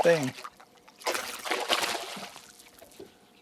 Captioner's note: splash